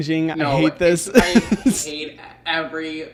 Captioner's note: laughing